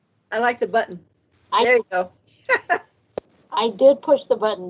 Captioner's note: laughs